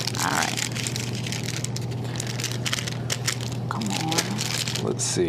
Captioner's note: wrapper scrunching continues